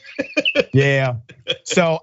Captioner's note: laugh